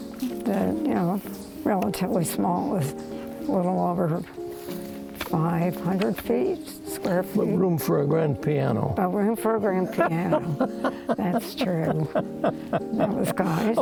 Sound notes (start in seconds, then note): 9.8 chuckles